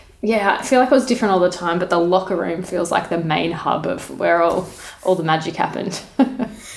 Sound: laughing

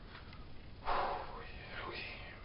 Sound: breathes out

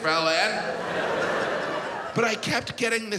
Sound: audience laughs

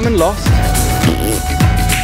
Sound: parp

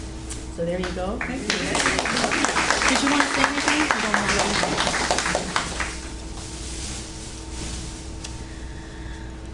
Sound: audience Applauds

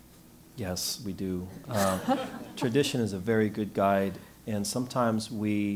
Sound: laugh

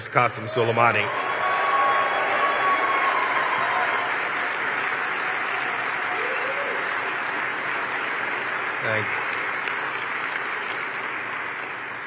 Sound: cheers and applause

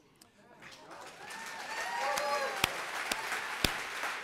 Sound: audience applauds

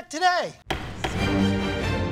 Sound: gavel banging; somber music plays

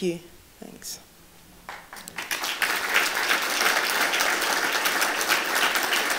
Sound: applause

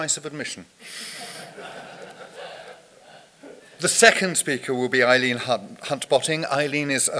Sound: audience laughter

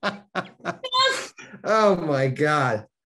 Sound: Denis laughing

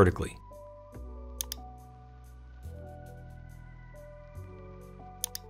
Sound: mouse clicking

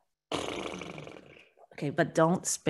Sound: blowing raspberries

